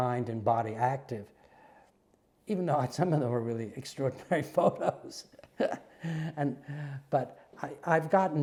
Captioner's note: laugh